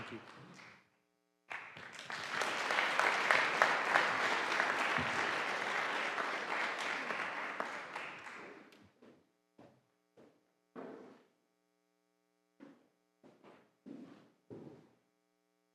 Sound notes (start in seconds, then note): 1.5 audience applauding